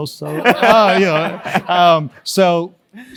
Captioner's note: laugh